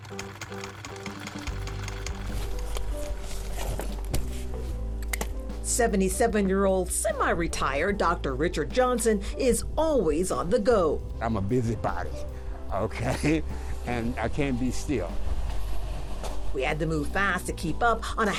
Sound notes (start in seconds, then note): 0.0 sewing machine whirring; 3.7 backpack rustling; 5.0 handle clicks